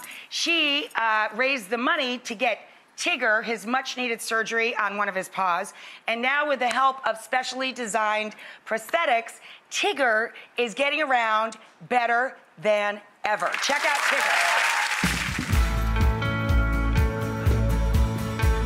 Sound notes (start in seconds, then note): 13.4 audience applause; 15.4 bright music